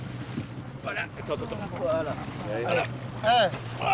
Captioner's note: crew speaking French